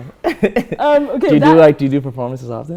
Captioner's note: laughter